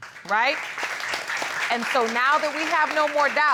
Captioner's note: audience applauding